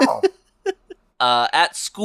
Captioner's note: laughs